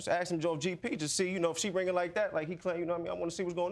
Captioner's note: stammers